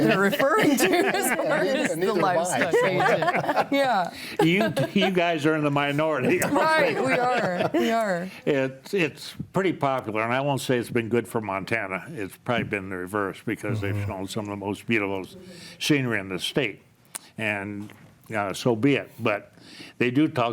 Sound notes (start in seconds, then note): 0.0 laughs